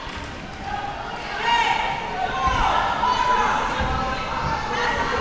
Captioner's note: crowd yelling